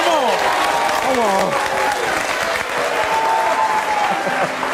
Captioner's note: audience hollers